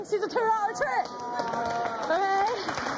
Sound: audience jeering

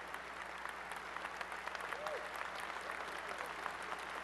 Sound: applause

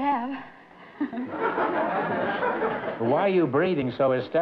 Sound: laughter

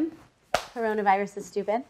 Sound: hands smacking

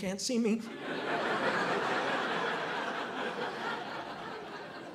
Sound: audience laughing

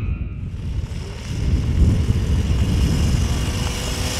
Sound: engine revving

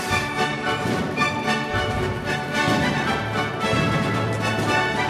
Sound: fireworks booming

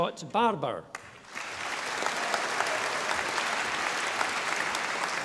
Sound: audience applauding

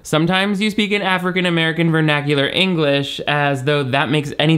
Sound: none

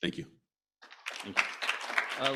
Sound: applause

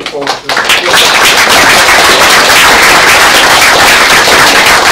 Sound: applause

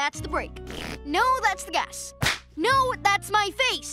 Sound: imitated flatulence; slap lands

